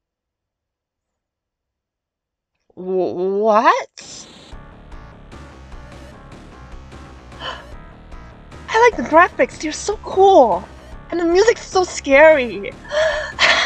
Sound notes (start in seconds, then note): 4.0 static; 7.4 gasp; 12.8 nervous laughter